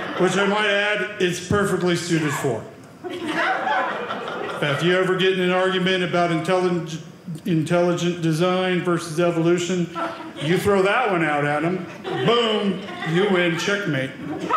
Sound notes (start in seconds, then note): 3.0 audience laughing; 14.4 audience laughing